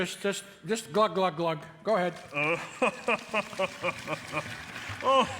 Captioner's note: Santa laughing merrily